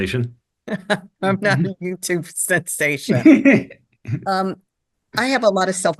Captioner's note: laughing